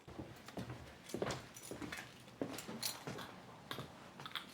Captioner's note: keys jangling